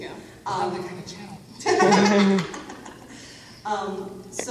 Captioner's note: whispered; all laugh